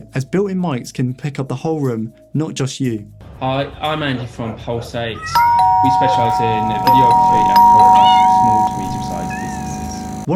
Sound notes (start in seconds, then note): 5.3 bell ringing